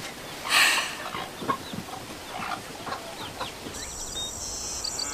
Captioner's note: sighs